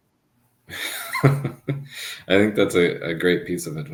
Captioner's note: chuckles